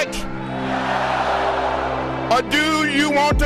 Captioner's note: crowd